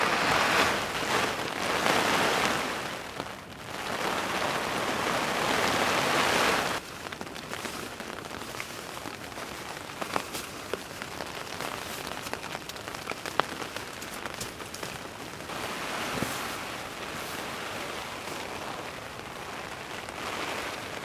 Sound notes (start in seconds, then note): 9.1 sound of heavy rain